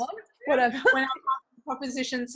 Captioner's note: laughing